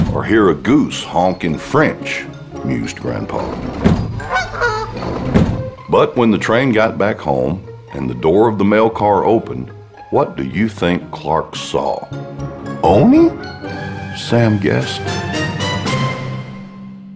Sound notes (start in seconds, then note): 4.2 goose honk